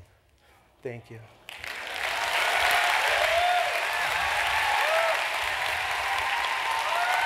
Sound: applause

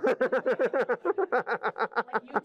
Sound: laughter

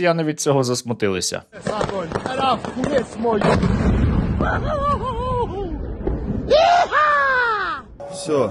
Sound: joyfully squealing

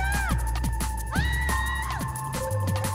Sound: Natalie Screams

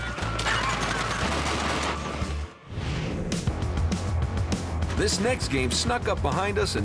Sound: gunshots

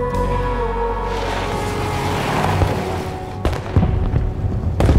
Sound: tires peel out; fireworks exploding

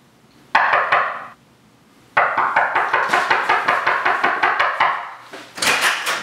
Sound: sound of door knocking

